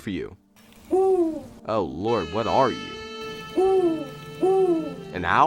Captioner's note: chirping